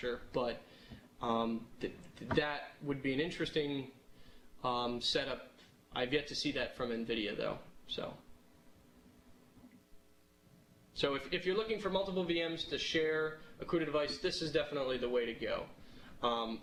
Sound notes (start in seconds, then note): 7.8 pause